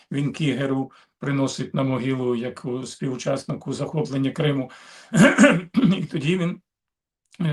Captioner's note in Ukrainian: прочищення горла